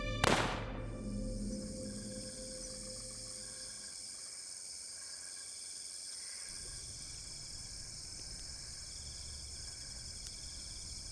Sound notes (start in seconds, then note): 1.5 crickets chirping